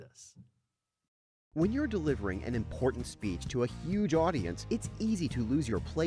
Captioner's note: voiceover